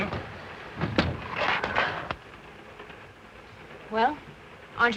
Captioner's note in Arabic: يغلق الباب وتنزلق الستارة للأسفل